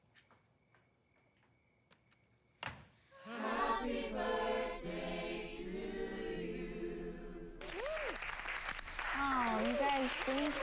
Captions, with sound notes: Happy birthday to you [ALL APPLAUDING] Aw, you guys, thank you.